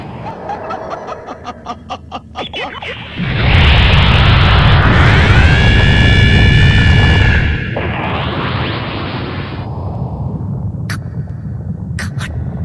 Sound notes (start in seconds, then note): 0.2 laughing; 4.8 screaming